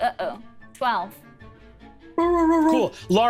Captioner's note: barks